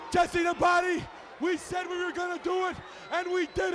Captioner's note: crowd cheering